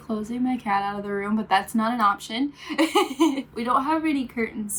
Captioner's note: laughs